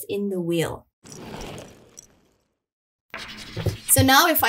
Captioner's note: roller skates passing